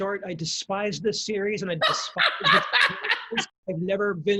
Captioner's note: laughing